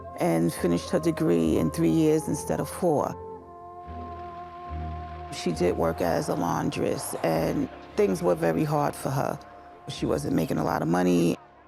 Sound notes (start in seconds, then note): 4.0 cars sputtering